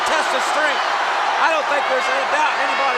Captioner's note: crowd shout